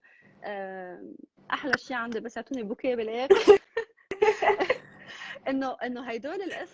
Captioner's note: laughs